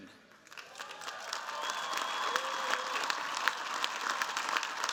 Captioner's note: cheers, applause